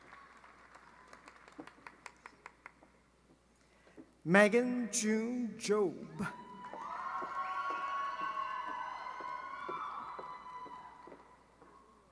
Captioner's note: applause